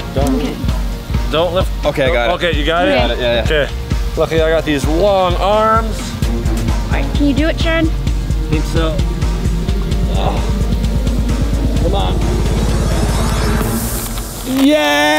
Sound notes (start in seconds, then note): 10.0 grunting; 13.7 rustling